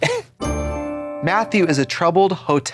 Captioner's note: bright chime